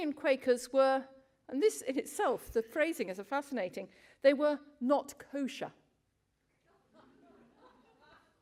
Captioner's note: laughter from crowd